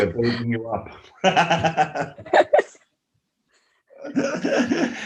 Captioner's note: laughter